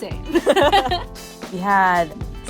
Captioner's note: both laugh